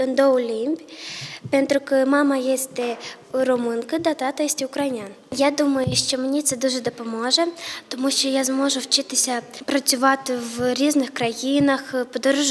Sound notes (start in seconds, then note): 5.7 <i>Ukrainian</i>